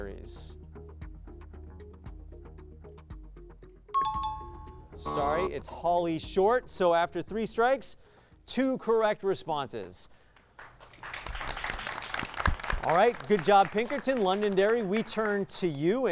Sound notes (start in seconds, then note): 0.1 pulsing music; 4.0 high-pitched tones; 4.4 buzz; 10.4 applause